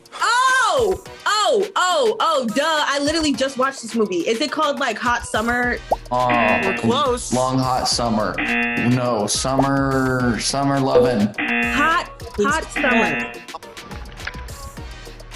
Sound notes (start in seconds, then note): 6.3 buzzer rings; 8.3 buzzer rings; 11.3 buzzer rings